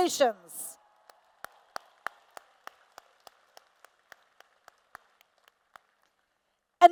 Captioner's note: applause